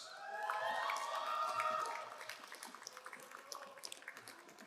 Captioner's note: crowd cheering and applauding